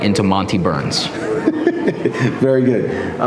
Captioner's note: laughing